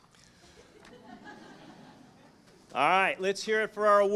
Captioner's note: audience chuckling